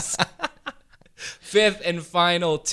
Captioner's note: both laughing